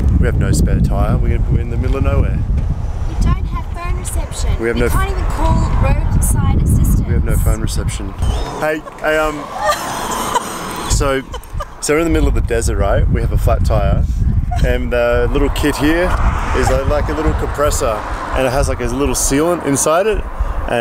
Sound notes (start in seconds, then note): 8.5 laughing